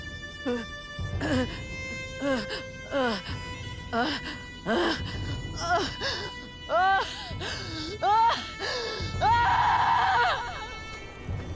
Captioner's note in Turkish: Ağlama Sesi; Bağırma Sesi